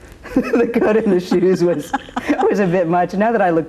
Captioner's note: both laugh